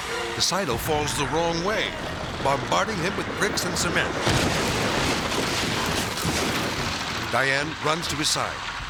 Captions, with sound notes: The silo falls the wrong way, bombarding him with bricks and cement. (silo thuds) Diane runs to his side.